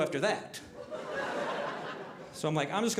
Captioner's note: audience laughing